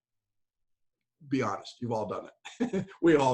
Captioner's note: laughs